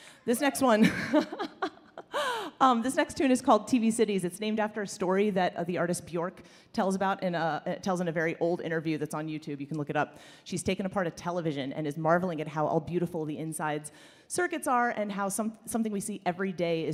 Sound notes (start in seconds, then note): 0.8 laughs